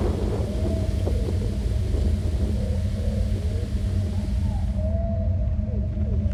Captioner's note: animals vocalizing; mysterious music